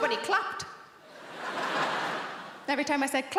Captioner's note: audience laughing